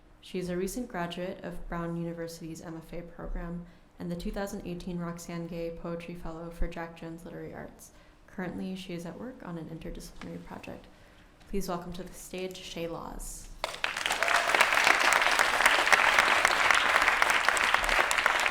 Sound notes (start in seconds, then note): 13.6 applause